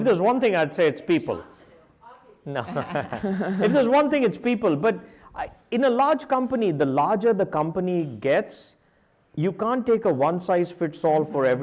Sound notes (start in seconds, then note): 2.5 chuckles